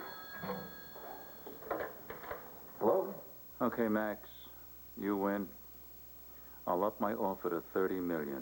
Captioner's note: telephone rings